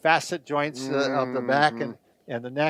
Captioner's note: hums